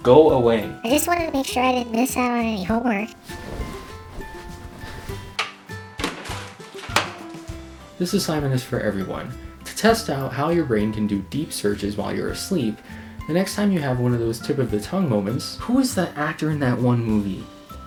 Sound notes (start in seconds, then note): 6.8 trash can closing